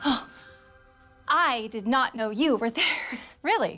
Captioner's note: gasps